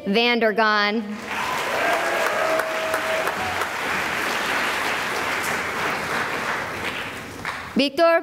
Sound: cheering and applause

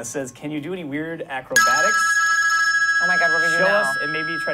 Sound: ring

